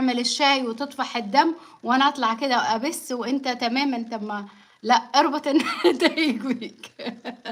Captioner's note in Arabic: ضحك